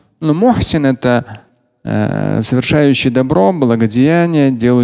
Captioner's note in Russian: говорит на арабском